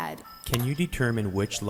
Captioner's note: voiceover